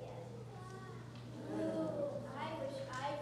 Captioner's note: entire group "ooh"ing